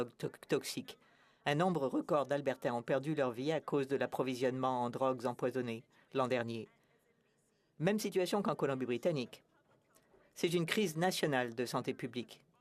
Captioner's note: speaking French